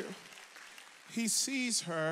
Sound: audience applauds

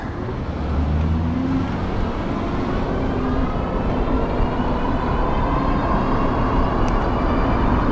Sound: car engine growling; motor whooshing

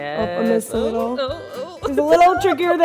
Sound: laughing

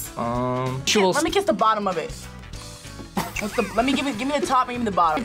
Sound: React laughs

